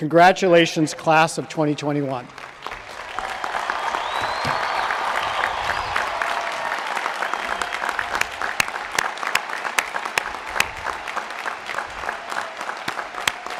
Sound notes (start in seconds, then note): 2.2 applause